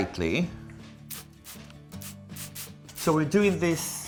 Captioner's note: oil spritzing